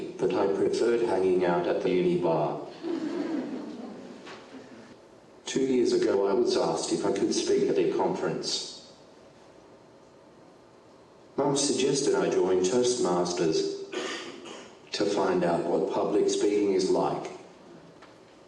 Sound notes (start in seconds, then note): 2.7 audience laughing